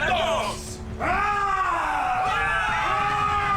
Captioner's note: all shouting